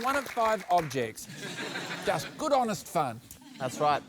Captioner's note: laughter